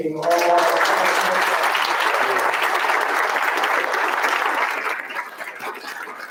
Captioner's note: round of applause drowns out speaker